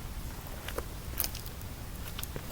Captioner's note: tiny cronch